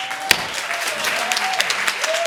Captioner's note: audience applauding